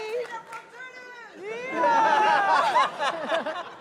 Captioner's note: laughter